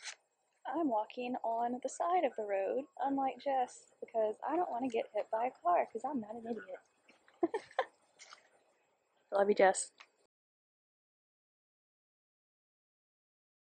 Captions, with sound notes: I'm walking on the side of the road unlike Jess because I don't wanna get hit by a car 'cause I'm not an idiot. [laughs] Love you Jess.